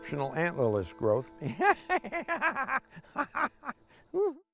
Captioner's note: laughing